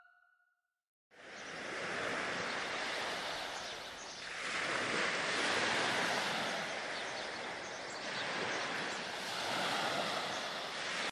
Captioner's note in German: Meeresrauschen